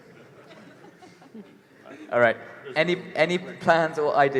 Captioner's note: laughter